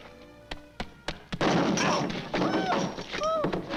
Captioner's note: pole bangs